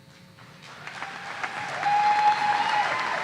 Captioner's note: applause